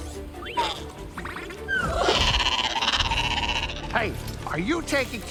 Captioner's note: adorable growl